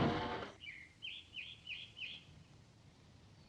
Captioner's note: bird chirping